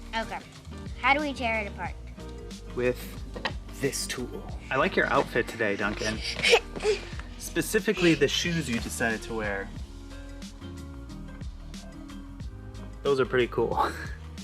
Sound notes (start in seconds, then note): 6.4 grunting